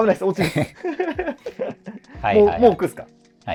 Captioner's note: laughing